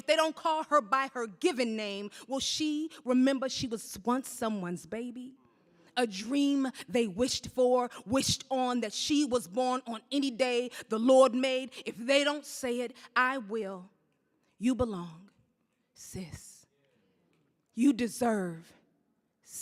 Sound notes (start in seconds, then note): none